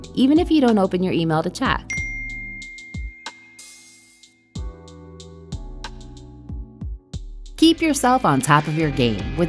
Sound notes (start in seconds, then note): 1.9 cellphone dinging; 3.7 lighthearted music